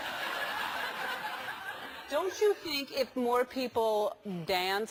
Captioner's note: laugh